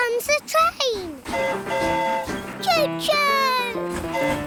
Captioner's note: train horn hooting